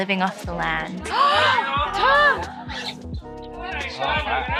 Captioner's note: gasps